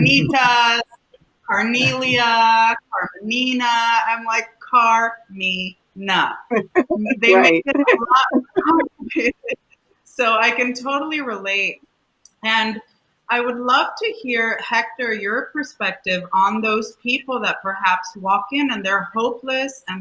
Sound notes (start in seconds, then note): 7.0 laughter